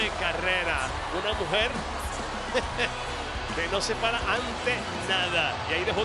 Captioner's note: laugh